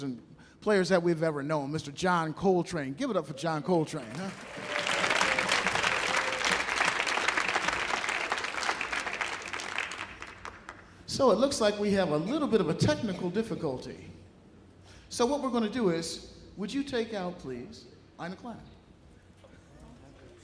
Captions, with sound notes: and players that we've ever known, Mr. John Coltrane. Give it up for John Coltrane, huh? [audience applauding] So it looks like we have a little bit of a technical difficulty. So what we're gonna do is, would you take out, please, Eine Kleine?